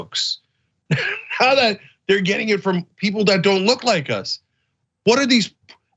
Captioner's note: laugh